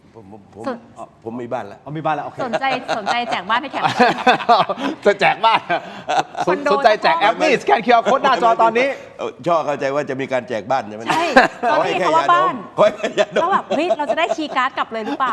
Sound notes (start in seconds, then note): 5.1 laughs; 12.7 laughs